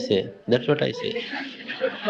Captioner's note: laughter